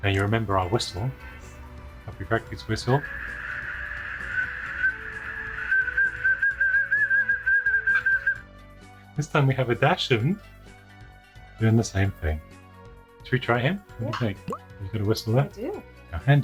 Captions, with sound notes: And you remember our whistle, Puppyfractic's whistle. (dog blows whistle) - This time we have a dachshund doing the same thing. Should we try him? What do you think? You got a whistle there? - I do.